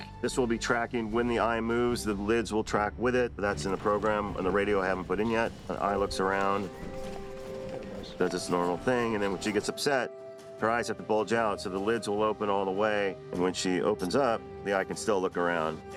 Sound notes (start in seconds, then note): 6.9 eye mechanism whirs